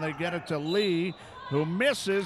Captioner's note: referee whistling